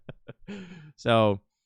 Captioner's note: laughing